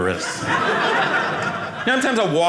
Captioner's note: audience laughing